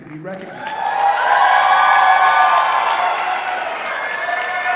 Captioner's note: applause and cheering